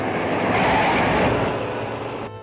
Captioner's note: tires screeching